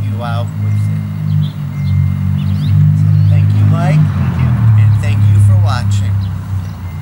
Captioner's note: truck drives